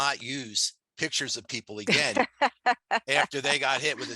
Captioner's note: laughs